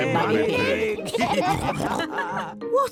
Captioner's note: all laughing